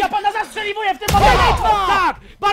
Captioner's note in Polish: dźwięk wystrzału